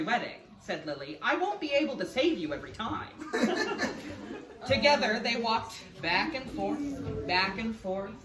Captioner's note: laughs